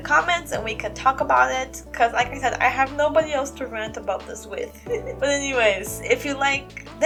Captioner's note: laugh